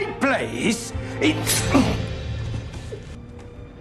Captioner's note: blade slices